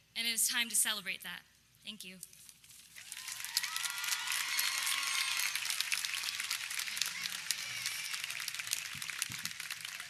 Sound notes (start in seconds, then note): 3.0 audience cheering